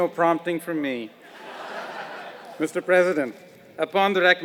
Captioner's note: laugh